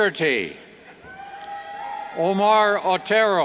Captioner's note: cheers